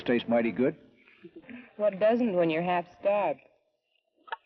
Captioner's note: chuckles